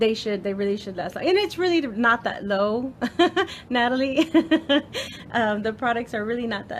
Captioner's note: laughs